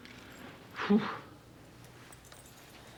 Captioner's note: exhales